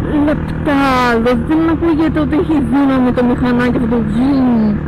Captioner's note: vrouum